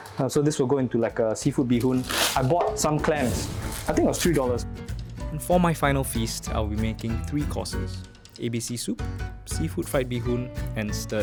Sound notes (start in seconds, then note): 5.6 voiceover